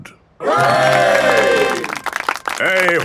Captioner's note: clapping